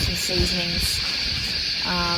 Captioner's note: tent fabrics rustle loudly in the wind